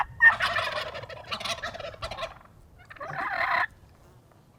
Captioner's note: turkey gobbling